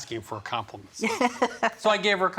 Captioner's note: laughing